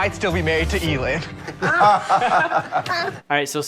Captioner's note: Sharks laughing